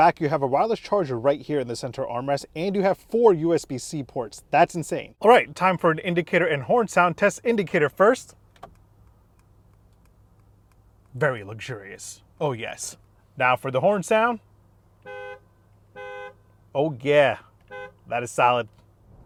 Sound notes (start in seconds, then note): 8.3 indicator ticking; 14.9 car horn honking